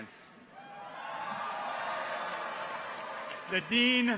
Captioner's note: people cheer